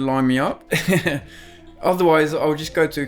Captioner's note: laughing